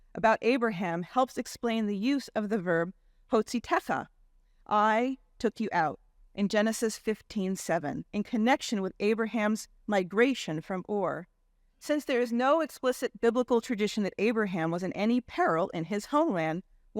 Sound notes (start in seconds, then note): 2.7 speaking in Hebrew language